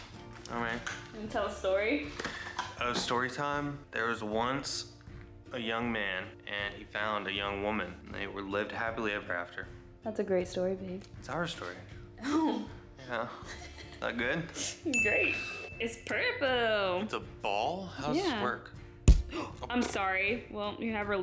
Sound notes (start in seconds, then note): 13.0 laugh